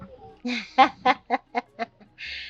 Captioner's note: laughing